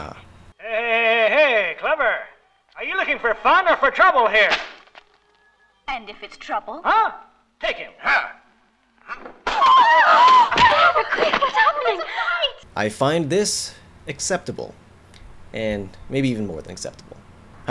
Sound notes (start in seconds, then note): 7.8 screaming; 7.8 shouts